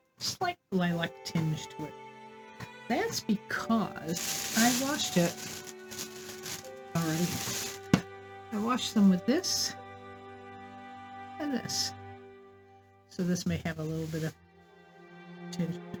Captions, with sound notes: slight lilac tinge to it. That's because [plastic bag rustling] I washed it [more plastic bag rustling] umm, I washed them with this and this. This may have a little bit of tint.